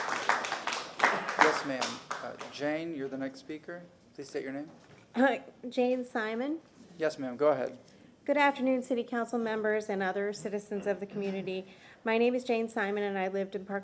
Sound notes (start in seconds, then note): 1.6 applause